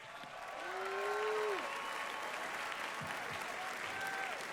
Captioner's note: audience applauding